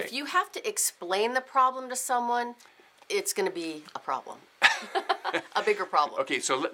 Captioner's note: laughs